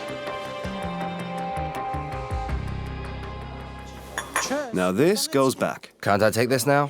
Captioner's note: voiceover